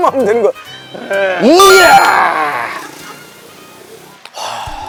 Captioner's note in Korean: 감탄